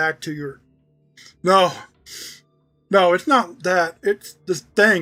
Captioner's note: sobbing